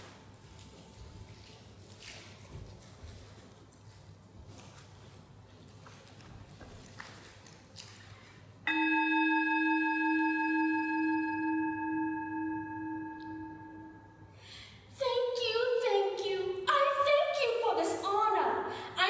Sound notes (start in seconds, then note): 8.7 reverberating sound of a bell struck once